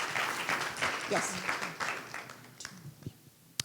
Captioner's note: applause